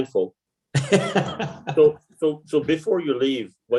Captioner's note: laughing